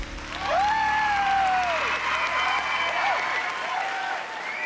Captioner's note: music fades, crowd cheering; whooping